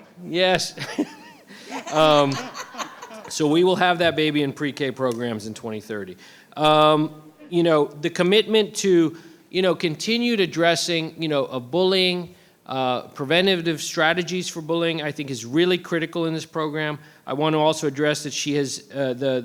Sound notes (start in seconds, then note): 0.7 laughing; 0.7 board members laughing